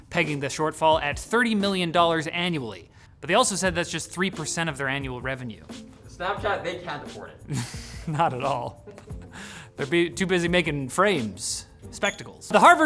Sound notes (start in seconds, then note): 7.4 snickers